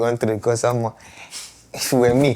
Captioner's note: laughs